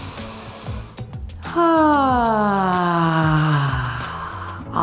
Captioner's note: sighs